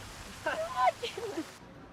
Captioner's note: laughing